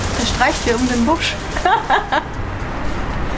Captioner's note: laughter